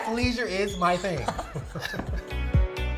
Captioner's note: laughing; upbeat music